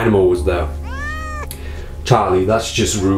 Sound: cat meowing

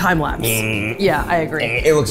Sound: humming

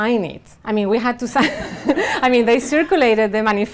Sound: laughing

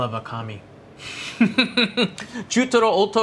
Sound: laughs

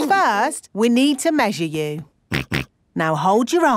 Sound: snorts

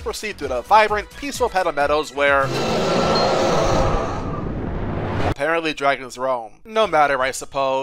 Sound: Hooktail roars

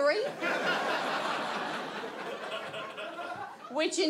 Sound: audience laughs

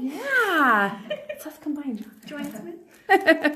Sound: laughing

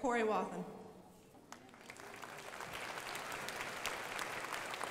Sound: crowd applauding

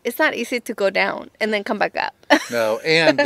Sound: laughs

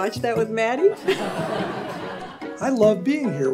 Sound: everyone laughs

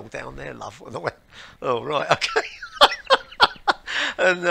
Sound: laughter

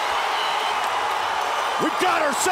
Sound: cheers and applause

